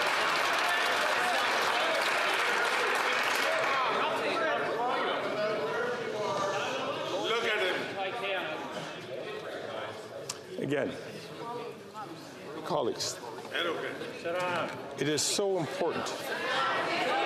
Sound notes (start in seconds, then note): 5.0 chatter